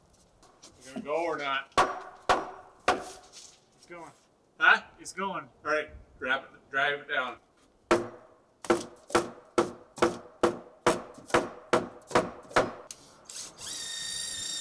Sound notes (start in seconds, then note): 8.6 hammer banging loudly